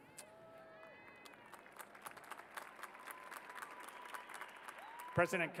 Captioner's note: cheers and applause